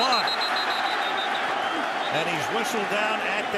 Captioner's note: whistle